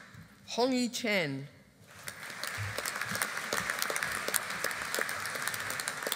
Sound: audience applauding

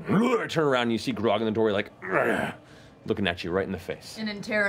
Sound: grunting

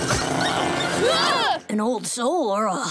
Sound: growling; screaming

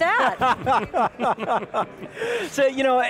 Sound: laughter

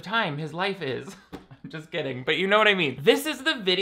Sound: laughing

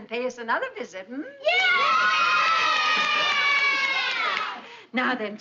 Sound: clapping

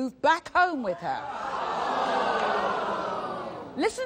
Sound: audience gasping

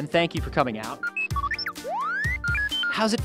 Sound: beeping

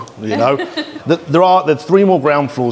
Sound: laughs

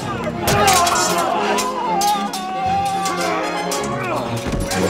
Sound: more confused screaming

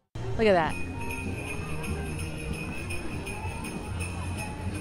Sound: bells jingling

